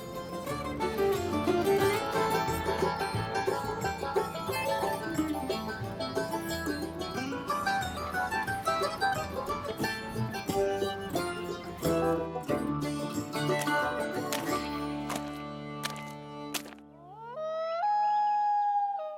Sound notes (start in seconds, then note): 0.2 lively bluegrass music; 13.3 bear footsteps crunching; 17.2 loon calls